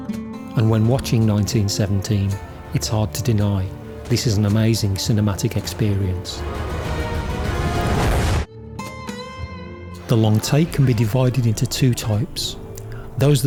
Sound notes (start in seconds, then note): 6.3 flames burst; 6.7 action music; 8.5 mellow guitar music